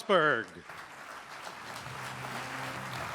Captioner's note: applause